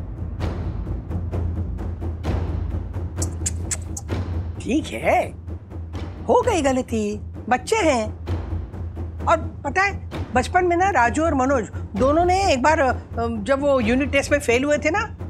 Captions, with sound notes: [tense music playing] [tongue clicks] It's okay. They made a mistake. They're kids. And you know, once Rajesh and Manoj both failed in their unit test